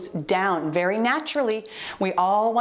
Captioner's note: timer beeps